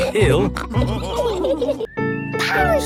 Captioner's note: all laughing